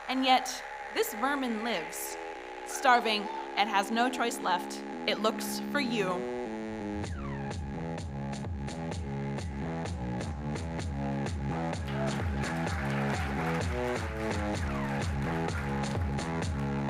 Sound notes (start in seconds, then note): 7.3 electronic dance music; 11.6 audience applauding